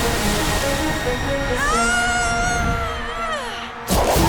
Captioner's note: screaming